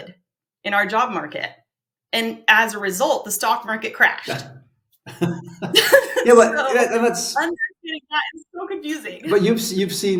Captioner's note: both laugh